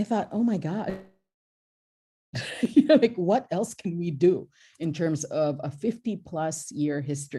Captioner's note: laughs